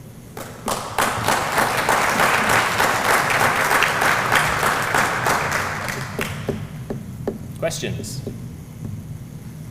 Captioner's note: applause